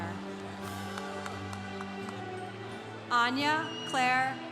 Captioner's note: congregation cheering